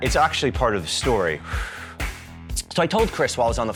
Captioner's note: exhales